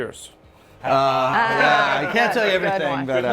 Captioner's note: group laughing